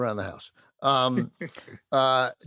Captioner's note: chuckles